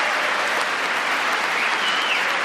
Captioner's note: applause